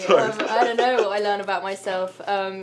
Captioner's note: laughter